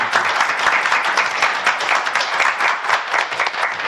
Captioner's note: applause